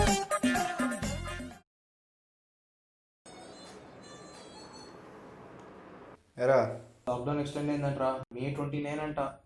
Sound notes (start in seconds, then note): 3.3 ringtone playing